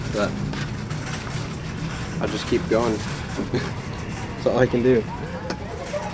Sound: chuckles

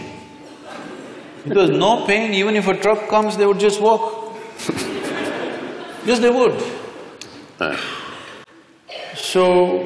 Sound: laughter

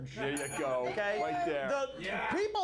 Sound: bell rings

